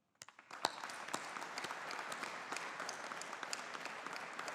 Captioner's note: audience applauding